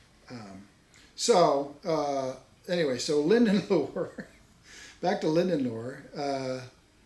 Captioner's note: laughs